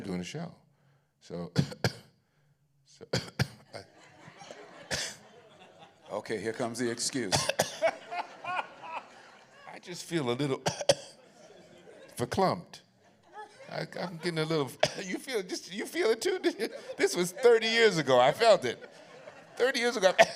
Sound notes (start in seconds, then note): 1.3 coughs; 7.6 laughter; 10.6 coughs; 13.3 coughs; 19.8 coughs